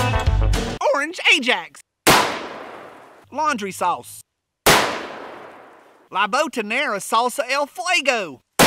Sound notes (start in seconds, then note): 2.0 gun fires; 4.6 gun fires; 8.4 gun fires